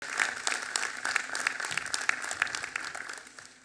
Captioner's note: clapping